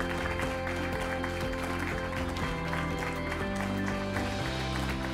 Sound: crowd continues applauding

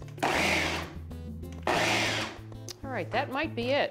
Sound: processor whirls

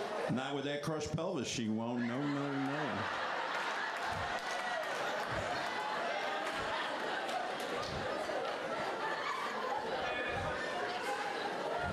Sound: laughter; laughter

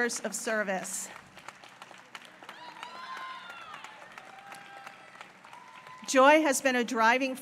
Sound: applause

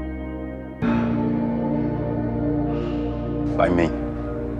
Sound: Philip sighs in relief; voiceover

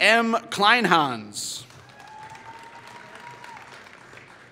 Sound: applause

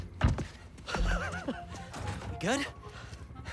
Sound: laughs

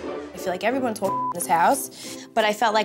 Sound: beep

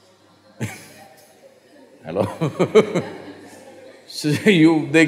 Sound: laughs; laughs

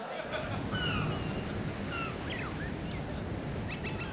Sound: seagulls cry

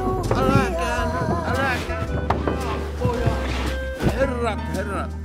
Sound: sounds of a fight; sounds of a fight

